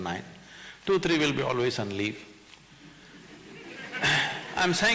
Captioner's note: few laugh